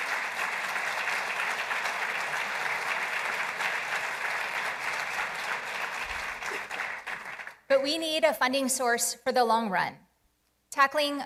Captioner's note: applause